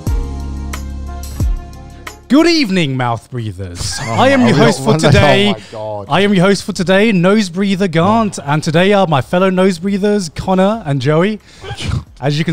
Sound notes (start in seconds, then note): 0.0 intro music plays; 3.8 co-hosts laugh